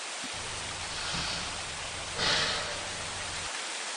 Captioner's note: takes a deep Breath